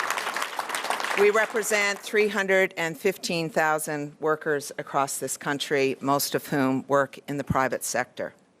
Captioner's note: cheers & Applause